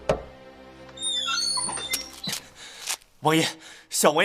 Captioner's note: harried knocking